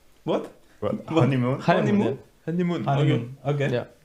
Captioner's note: surprised reactions